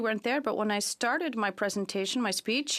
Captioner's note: speaking in French